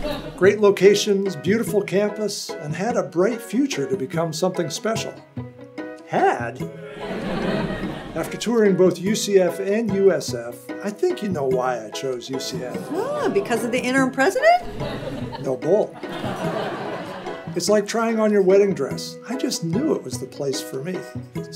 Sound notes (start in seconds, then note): 0.0 audience laughs; 6.8 audience laughs; 16.2 audience laughs